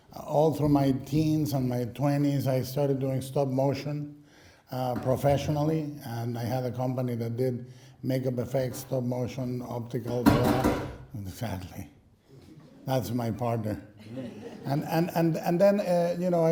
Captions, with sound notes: All through my teens and my 20s I started doing stop motion, uh, professionally and I had a company that did makeup effects, stop motion, optical.... [crashing sound] Exactly That's my partner. And-and-and then, eh, you know,